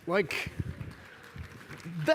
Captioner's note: applause